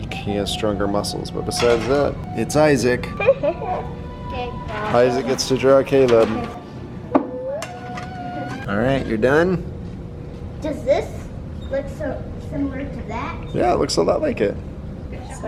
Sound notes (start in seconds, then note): 3.1 giggles; 7.1 humming